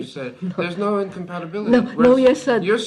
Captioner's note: laughs